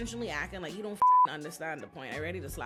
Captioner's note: beep